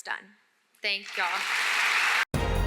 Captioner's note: applause